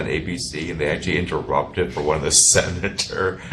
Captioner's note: chuckles